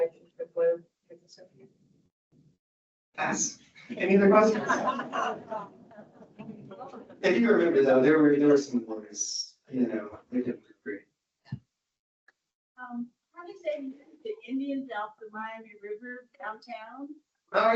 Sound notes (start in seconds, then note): 3.8 audience laughs